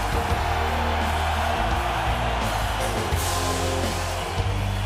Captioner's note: crowd cheering